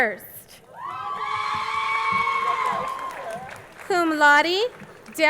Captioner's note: crowd cheering